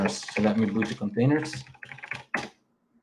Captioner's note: keyboard clacking